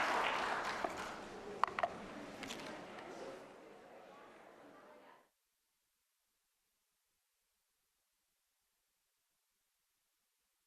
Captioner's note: applause